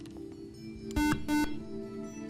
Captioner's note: buzzer